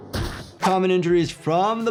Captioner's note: head thumping